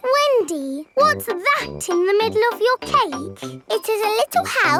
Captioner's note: snorts